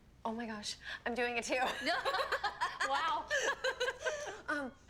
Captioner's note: both laughing